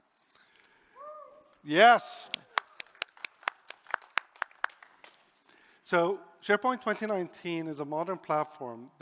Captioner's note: applause